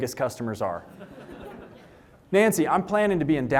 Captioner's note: laughter